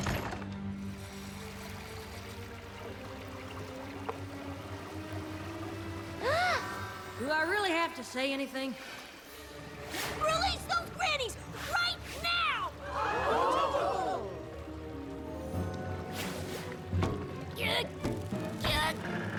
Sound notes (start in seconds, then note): 14.0 shouts from the audience; 14.0 sploosh